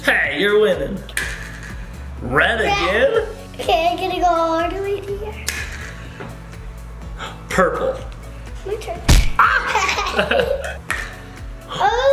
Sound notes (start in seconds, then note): 9.0 thump; 9.3 laughing loudly